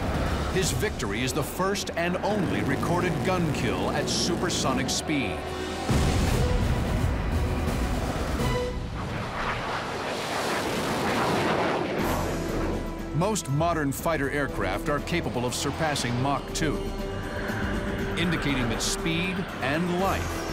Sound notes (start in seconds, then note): 5.8 explosion; 9.2 plane roaring